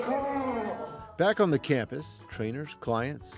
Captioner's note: voiceover